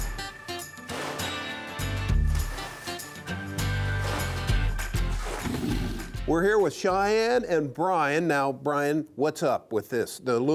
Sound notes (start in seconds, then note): 4.6 wood rattling